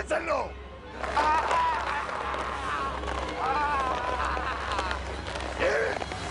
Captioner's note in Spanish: Quejidos